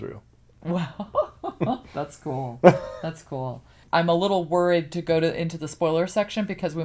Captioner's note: laughs